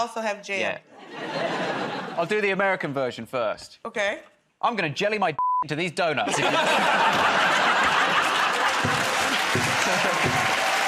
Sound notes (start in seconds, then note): 6.2 laughter